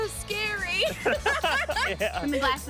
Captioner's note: laughing